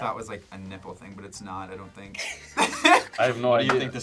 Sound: laughs

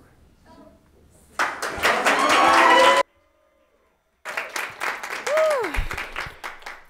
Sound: audience applauds; people cheer

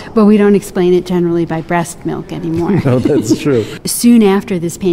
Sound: laughing

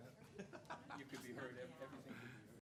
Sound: laughing

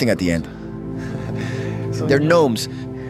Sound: laughs

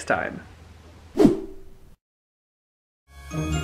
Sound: swoosh!

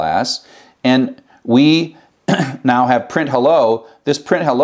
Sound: cough

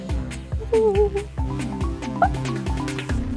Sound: humming

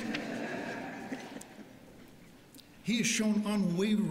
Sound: laughter

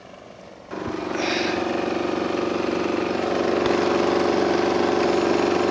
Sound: machine rumbles

